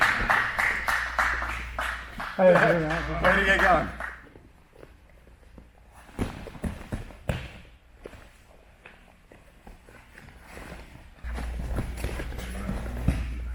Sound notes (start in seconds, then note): 0.0 applause; 6.1 stomping; 10.6 fabric rustling